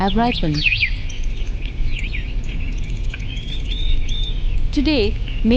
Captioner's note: birds chirping; gentle music